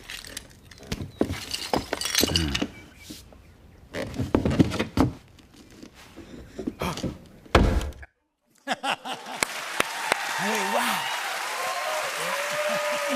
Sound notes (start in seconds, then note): 2.1 groans; 6.0 gasps; 6.0 scraping; 7.5 thud; 8.5 laughs